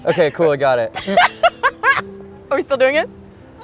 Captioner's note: laughing